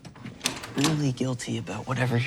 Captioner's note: door lock clicks